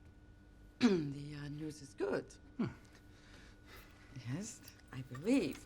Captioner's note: clears throat